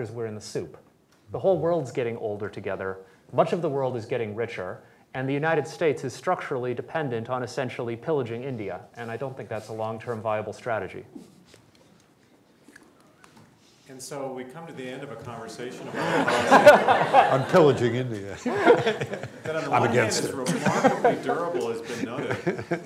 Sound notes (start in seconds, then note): 15.8 laughter